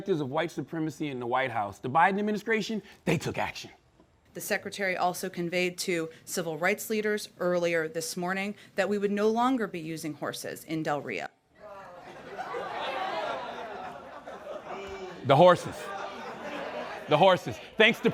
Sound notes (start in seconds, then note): 11.6 laughter; 14.5 man booing